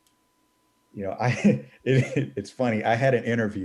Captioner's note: laughing